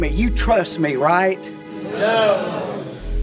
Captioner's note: crowd